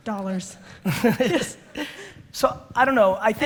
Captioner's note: Gary laughs